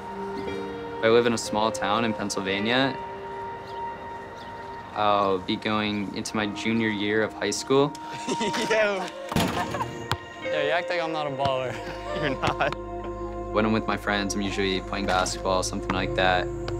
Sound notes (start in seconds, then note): 8.0 laughs